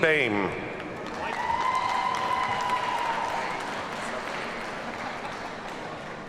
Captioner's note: audience cheers and applauds